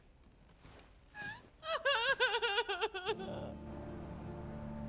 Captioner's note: crying; soft dramatic music